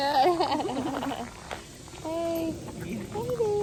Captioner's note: laughs